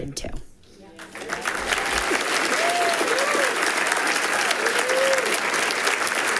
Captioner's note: people cheering and clapping